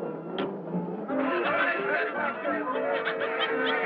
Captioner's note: crowd talking